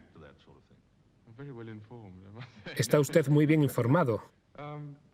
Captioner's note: laughs